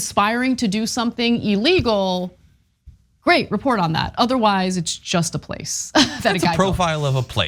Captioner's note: laugh